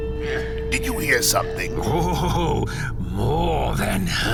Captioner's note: Cydar coughing